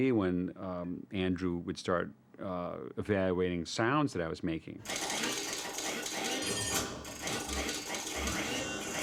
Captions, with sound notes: when Andrew would start evaluating sounds that I was making. (METALLIC CLATTERING) (SERVOS WHINING)